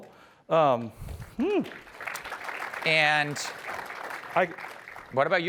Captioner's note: applause